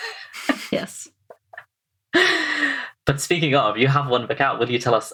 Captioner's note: laughing